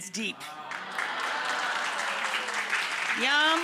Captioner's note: audience applauds